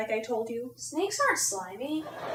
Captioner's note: audience laughing